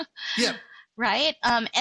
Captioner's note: laugh